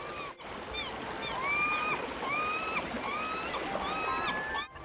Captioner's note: water splashing